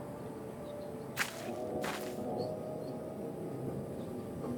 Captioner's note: footsteps